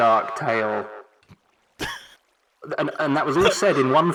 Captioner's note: laughs